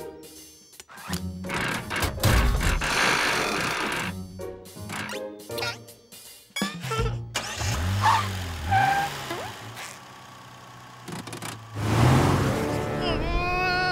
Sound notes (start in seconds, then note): 6.3 chuckles